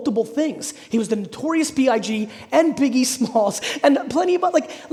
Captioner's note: laughing